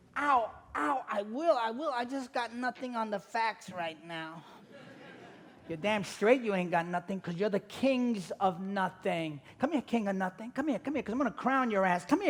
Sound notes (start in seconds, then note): 4.5 audience laughing